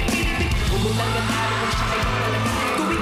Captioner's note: audience screaming